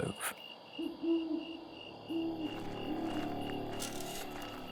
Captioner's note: owl hooting